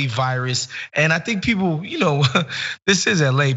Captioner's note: laugh